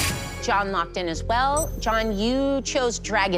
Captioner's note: chime